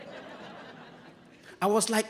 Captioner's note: audience laughing